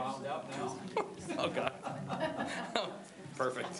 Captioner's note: laughs